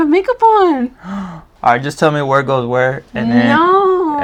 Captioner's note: sighs